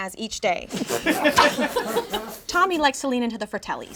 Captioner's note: all laugh